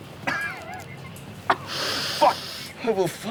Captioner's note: coughing